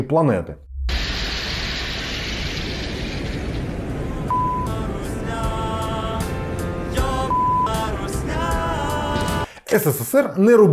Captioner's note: the sounds of Venus being dissatisfied with the arrival of the Soviet machine